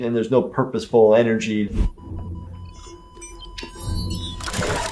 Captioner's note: machine sound